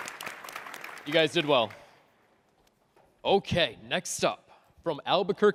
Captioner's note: applause